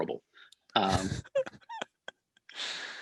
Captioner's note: they laugh